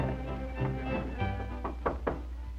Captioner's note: knocking